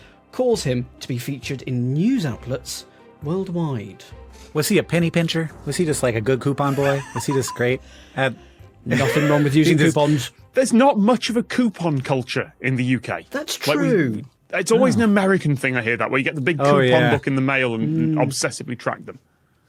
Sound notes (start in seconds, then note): 6.6 wheezes